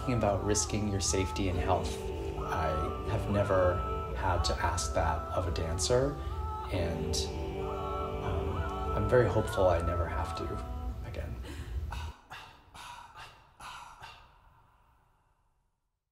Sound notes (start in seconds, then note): 11.2 soft rhythmic sighs